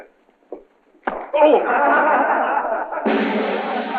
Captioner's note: men laughing; drum roll